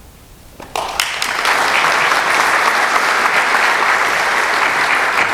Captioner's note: applause